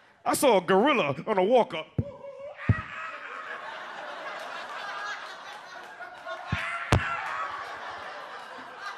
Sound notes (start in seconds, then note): 2.6 imitates monkey noises; 2.7 audience laughs